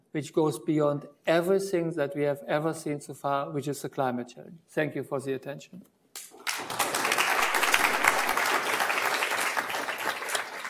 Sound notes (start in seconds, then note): 6.1 audience clapping